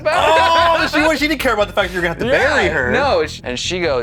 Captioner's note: laughs